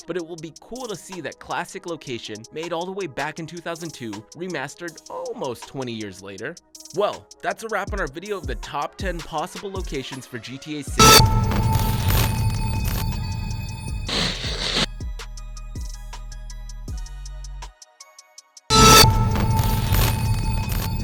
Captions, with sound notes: but it will be cool to see that classic location made all the way back in 2002 remastered almost 20 years later. Well, that's a wrap on our video of the top 10 possible locations for "GTA VI." (upbeat electronic music) (static hisses)